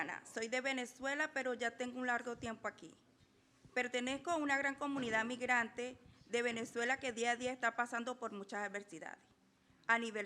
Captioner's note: speaking in foreign language